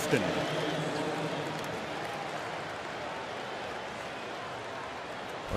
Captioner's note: pa announcement